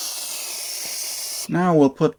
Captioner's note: hissing sound